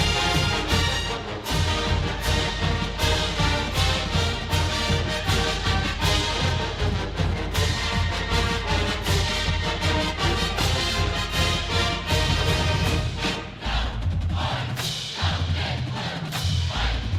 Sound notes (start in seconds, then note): 15.1 cheering